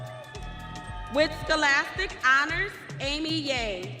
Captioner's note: audience cheering